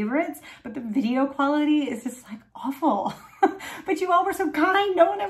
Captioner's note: chuckling